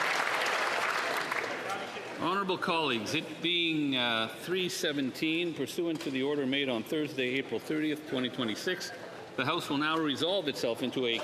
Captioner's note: applause